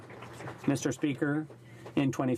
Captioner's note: some Applause